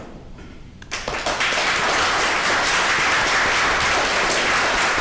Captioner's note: audience clapping